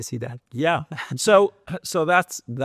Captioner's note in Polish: śmiech